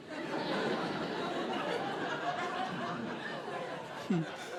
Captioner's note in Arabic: ضحك